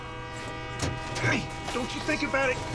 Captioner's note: truck door opens